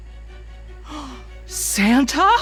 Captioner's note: gasps